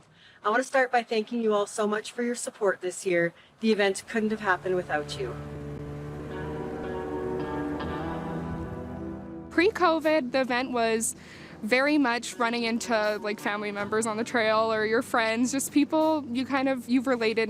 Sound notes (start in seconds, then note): 4.2 engine roaring; 5.8 gentle music